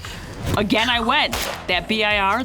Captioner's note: gunshot